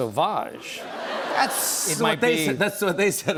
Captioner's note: laughter